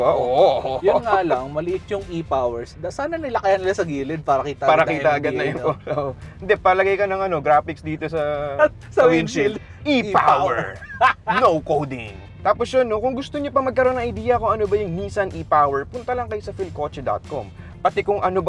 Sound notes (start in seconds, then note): 10.0 laughs